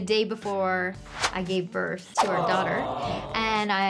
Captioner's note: crowd